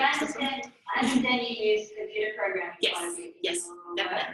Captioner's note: voice off screen